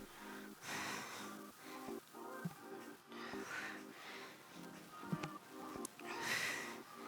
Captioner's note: upbeat music; panting